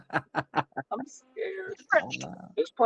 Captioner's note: laughing